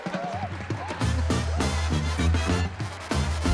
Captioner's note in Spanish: Aplausos